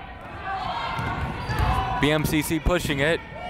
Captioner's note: yelling